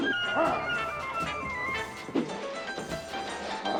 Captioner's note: zombie walter grumbling